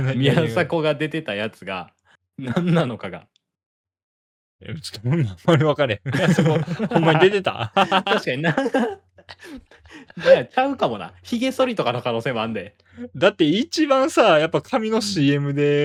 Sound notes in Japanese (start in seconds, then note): 5.9 笑い